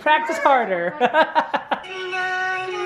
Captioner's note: laughing